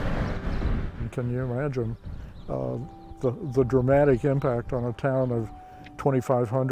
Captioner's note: car whooshing